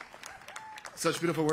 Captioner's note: applause